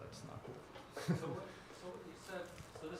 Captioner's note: laugh